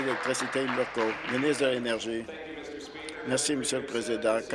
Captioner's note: applause